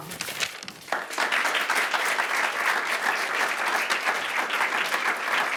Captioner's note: attendees applauding